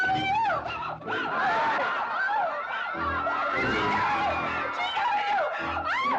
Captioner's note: crowd laughing